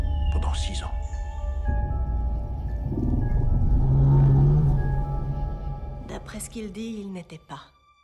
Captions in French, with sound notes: Pendant six ans ! (beuglement étrange) D'après ce qu'il dit, il n’était pas ...